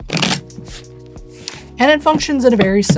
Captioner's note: shuffling